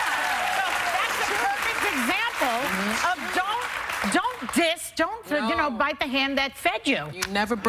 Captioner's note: cheers and applause